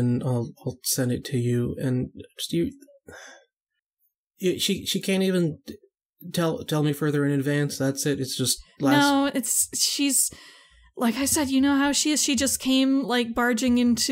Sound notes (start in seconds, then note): 3.1 sigh